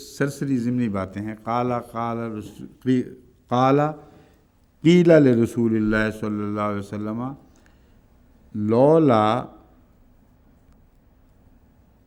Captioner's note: Arabic